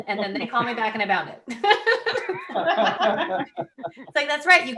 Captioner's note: laughing